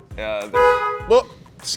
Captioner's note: car horn honks